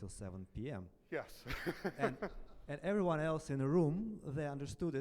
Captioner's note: laughs